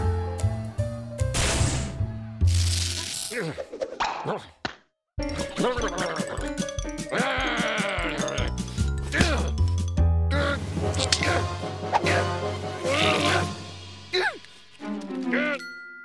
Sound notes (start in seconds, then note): 4.7 gargling; 7.1 angered grunting